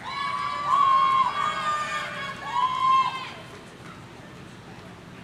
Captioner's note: audience cheering